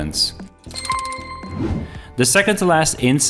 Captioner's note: bell ringing